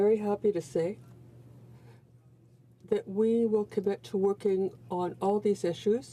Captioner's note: speaking french